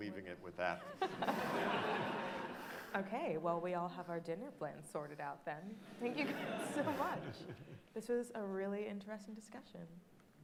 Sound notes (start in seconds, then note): 0.9 audience laughing